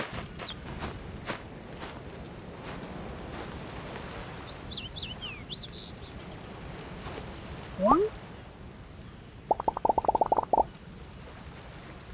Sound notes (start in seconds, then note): 7.8 balloon Sound; 9.4 bubbles sound